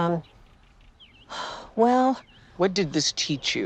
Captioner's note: sighs